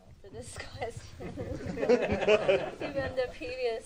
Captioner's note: laughter